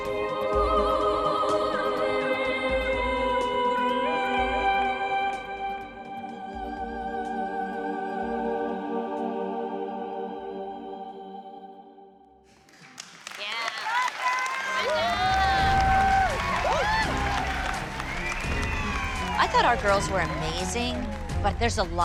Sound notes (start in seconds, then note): 12.5 applause; 14.9 all whooping, cheering